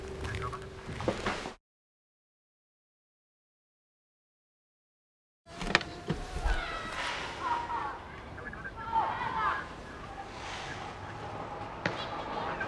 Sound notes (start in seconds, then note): 5.5 radio muttering; 5.5 kids chattering